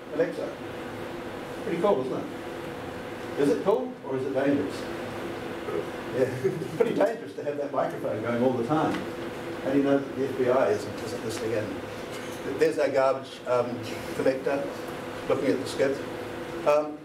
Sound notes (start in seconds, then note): 6.2 laughter